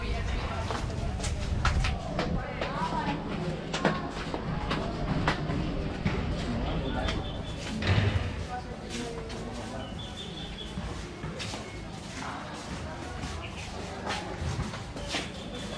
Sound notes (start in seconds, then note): 9.7 birds chirping